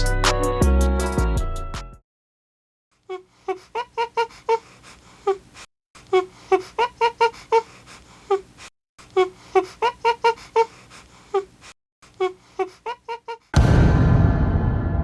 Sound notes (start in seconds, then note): 0.0 outro music; 3.0 looping monkey sound effect